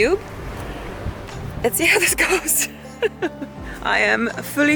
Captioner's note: laughs